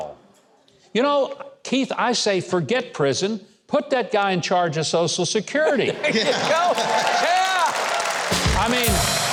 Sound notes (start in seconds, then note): 5.9 audience cheers; 8.0 drum roll